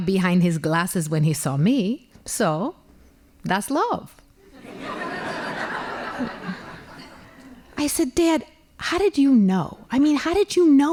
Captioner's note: laughing